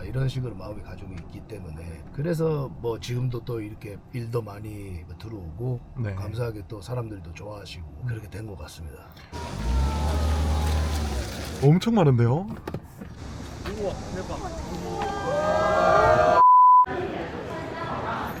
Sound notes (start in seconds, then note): 14.7 cheering